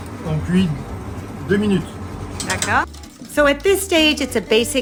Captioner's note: speaking in French